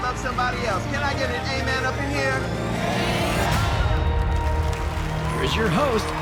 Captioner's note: audience cheering